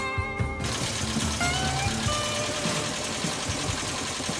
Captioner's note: engine rumbling